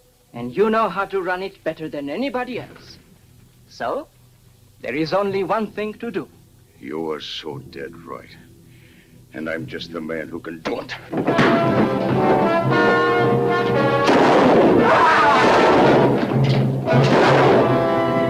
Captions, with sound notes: and you know how to run it better than anybody else. So, there is only one thing to do. - You are so dead right, and I'm just the man who can do it. (fist thuds) (suspenseful music) (gun firing) (George groans)